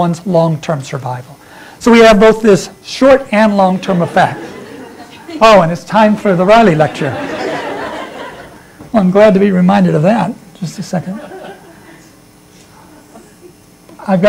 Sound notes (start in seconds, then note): 6.6 laughter